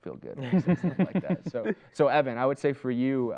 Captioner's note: laughter